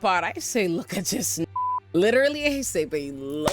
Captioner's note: beep